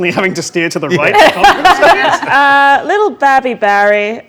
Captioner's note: laughing drowns out speaker